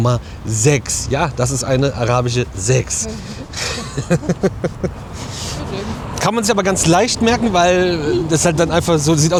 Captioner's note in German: gelächter